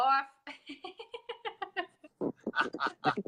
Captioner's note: laughs